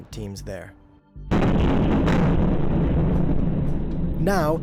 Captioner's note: explosion booming